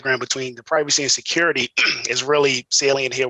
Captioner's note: clears throat